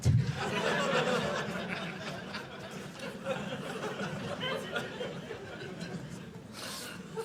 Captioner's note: audience laughing